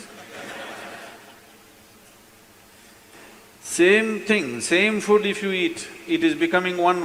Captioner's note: laughter